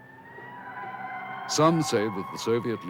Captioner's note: police sirens blaring